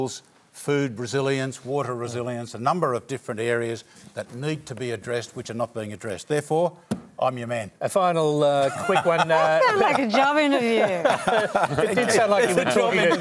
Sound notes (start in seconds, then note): 8.6 laughter